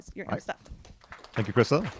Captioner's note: applause